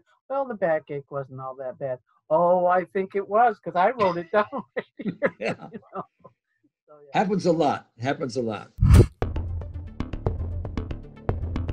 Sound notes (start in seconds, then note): 4.0 laughs; 8.8 upbeat music